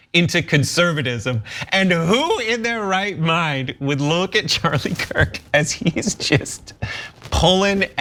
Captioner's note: laugh